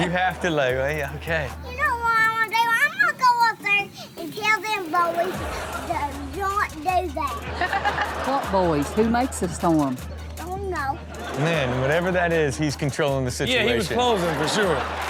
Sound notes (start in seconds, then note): 7.3 Chanel and audience laughing; 13.9 audience clapping; 14.9 audience laughing